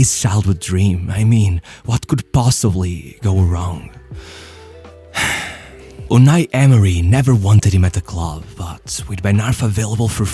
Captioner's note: sigh